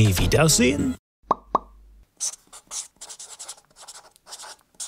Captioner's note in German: Ploppgeräusche, Stiftekritzeln